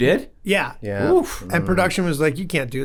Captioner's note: Glenn exclaims